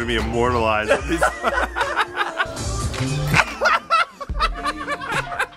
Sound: laughter

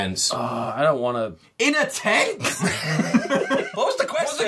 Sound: laughter

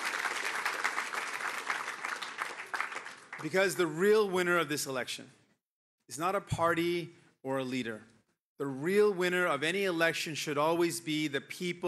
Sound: cheering

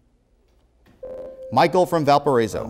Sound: beeping

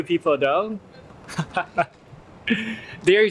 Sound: laugh

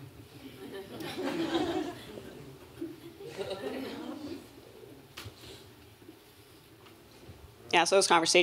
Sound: laughter

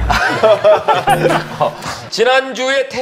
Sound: haha

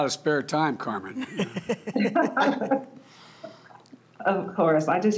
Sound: laughter

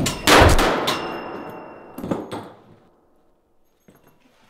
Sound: guns firing

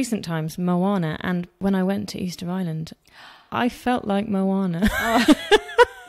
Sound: laughs

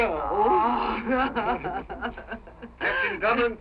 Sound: laughing

